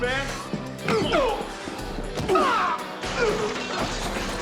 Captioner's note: groaning